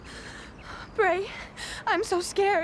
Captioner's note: sobs